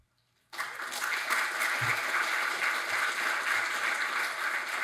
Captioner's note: audience applauds